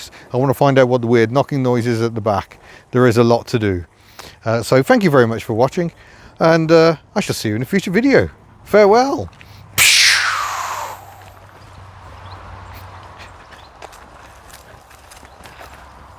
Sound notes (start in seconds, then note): 12.4 ptchooo